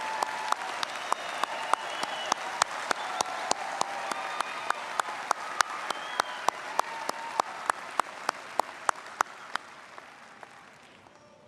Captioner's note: applause